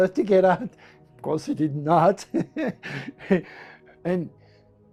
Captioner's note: laughs